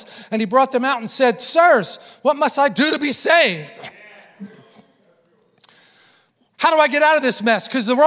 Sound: congregation affirming

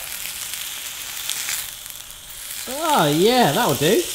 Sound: sizzling

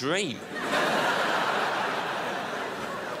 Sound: crowd laughs

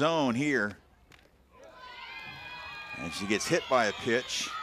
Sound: crowd yelling

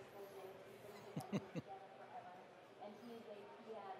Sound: laughing

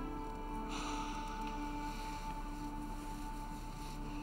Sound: Jake sighs

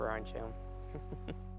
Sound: chuckles

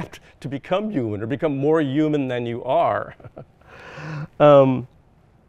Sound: chuckles

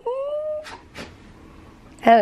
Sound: sneezes

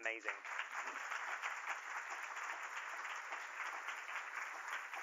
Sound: applause

